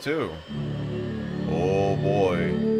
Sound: plane engine sounds

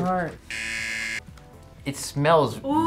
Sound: buzzer rings

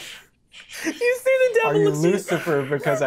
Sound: speaking faintly

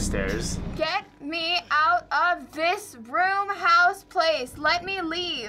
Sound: haltingly

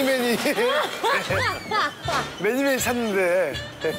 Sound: almost wailing

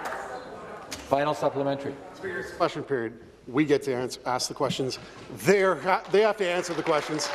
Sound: applause

